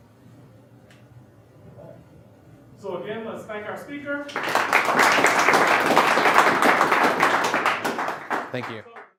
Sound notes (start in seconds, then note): 4.2 audience clapping